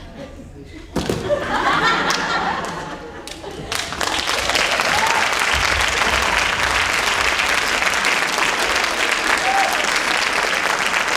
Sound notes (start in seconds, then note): 3.6 audience applauding and cheering